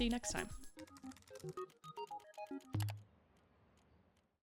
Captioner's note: keys clicking; computer mouse clicking